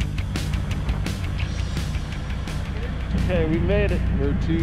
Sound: boat engine running

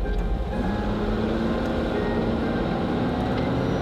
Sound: van roaring

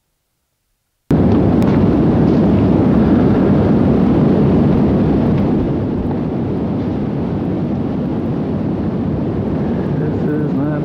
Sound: sounds of rushing wind from the tornado

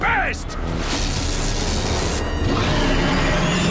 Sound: sizzling; growling

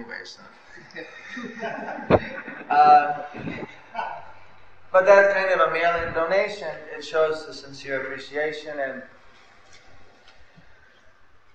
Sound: laughter

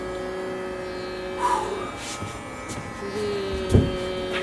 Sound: meditative music; exhales

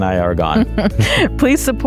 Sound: laughs

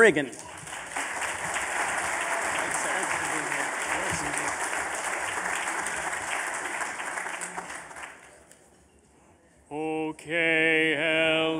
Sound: applause

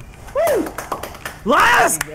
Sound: claps

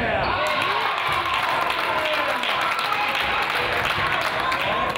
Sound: crowd applauds

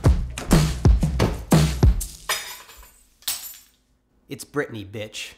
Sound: bag thudding; keys jangling

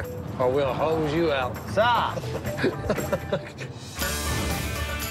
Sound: laughs

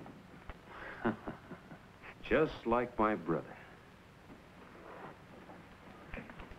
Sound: laughs

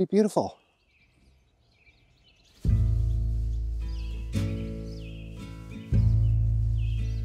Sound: birds chirping

